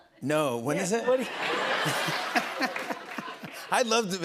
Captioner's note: laughter